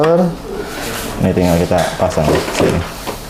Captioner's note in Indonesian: suara vakum